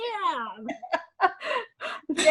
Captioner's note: laughing